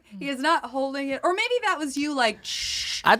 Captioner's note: whooshing